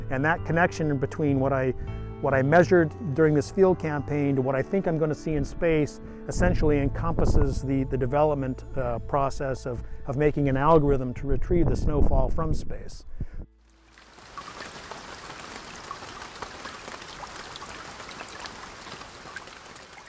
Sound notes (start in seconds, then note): 13.6 rain; 16.1 rain dripping